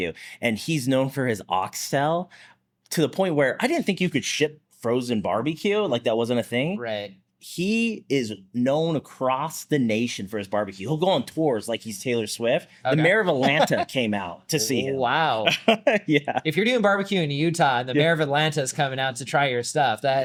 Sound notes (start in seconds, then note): 15.5 laughs